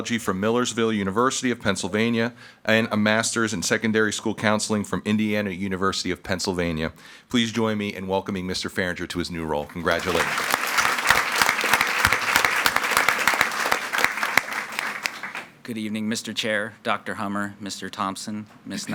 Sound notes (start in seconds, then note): 9.6 attendees clapping